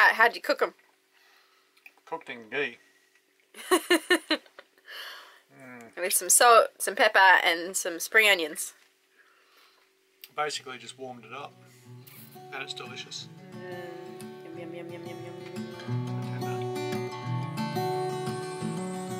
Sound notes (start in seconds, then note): 3.6 laughs; 16.1 relaxing music